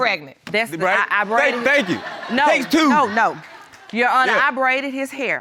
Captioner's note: stammers